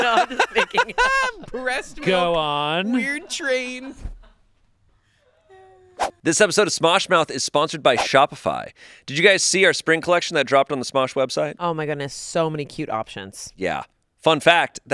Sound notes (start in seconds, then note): 0.0 laughs; 6.0 screen whooshes